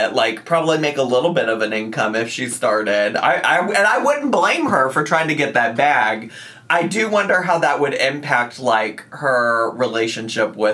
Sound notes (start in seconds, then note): none